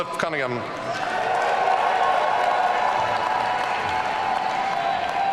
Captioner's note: audience cheering